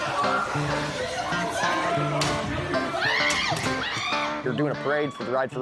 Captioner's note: people screaming